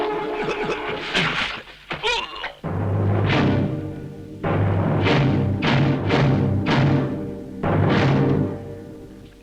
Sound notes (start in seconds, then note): 0.7 soldiers gasping